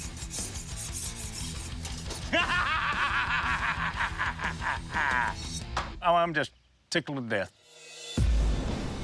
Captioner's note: laughs